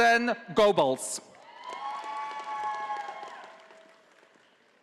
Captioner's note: audience applauding